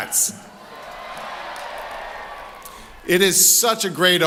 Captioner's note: cheering